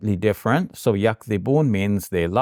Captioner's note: speaking in Arabic